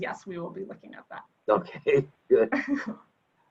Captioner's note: laughs